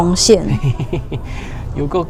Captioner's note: uncle melted laughter